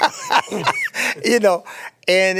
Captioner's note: laughter